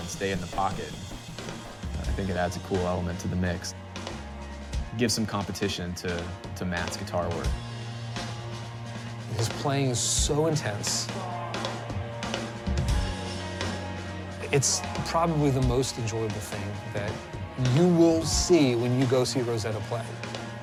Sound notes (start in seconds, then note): 2.5 voiceover